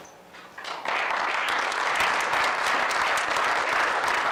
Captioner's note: applause